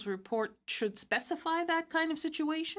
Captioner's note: speaking in french